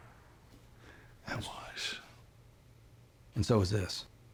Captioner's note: scottish accent